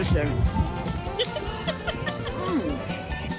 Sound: laughing

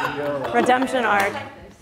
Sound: laughs

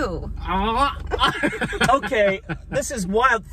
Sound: laughs

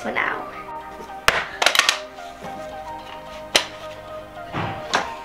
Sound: picture frames tap

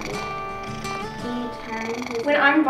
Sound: cat purr

